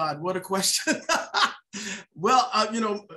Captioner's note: laughs